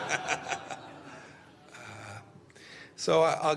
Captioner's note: laughter